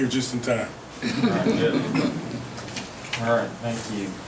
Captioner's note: audience laughing